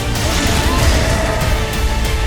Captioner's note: yells